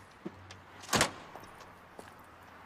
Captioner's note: door closes